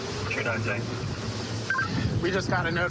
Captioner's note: radio communication